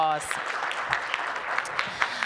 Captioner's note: applause